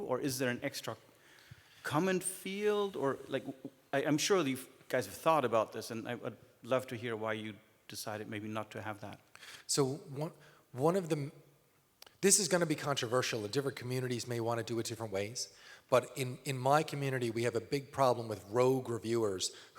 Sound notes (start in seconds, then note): none